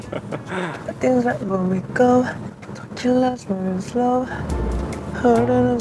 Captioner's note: humming